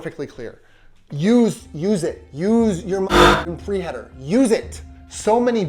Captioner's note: beep